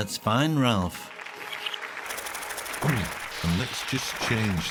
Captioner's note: hands clapping; birds wings fluttering